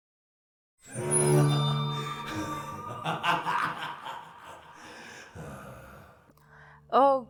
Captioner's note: evil laugh